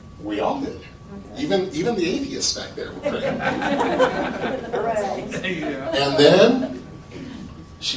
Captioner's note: laughter